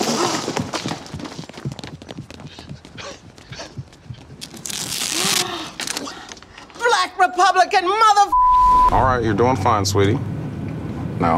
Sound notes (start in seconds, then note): 0.0 feet tapping; 5.2 woman gasps; 8.3 beeps